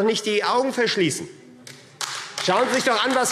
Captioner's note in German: Beifall AfD